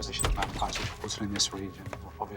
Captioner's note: door creaks